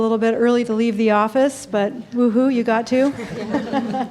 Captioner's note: laughing